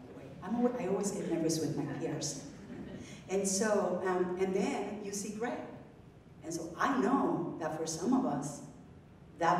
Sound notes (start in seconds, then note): 2.5 audience members laughing